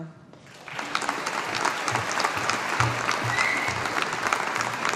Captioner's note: audience applauding